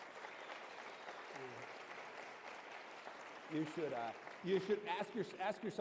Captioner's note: applause